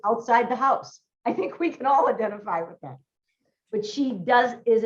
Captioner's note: laughs